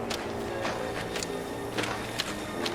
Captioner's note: footsteps